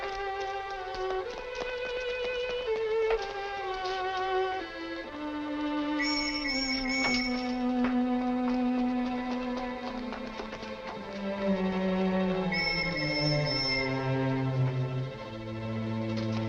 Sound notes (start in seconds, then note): 6.0 police whistle blowing; 12.4 police whistle blowing